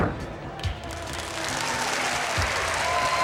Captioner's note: applause